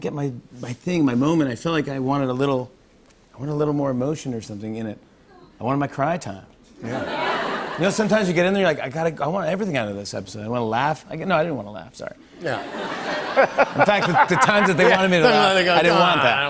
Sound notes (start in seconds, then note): 6.8 laughter; 12.4 laughter